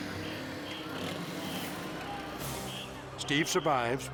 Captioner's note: whistle blowing